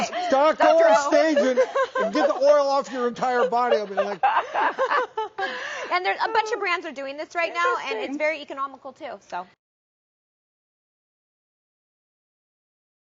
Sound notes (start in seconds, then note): 4.6 laughs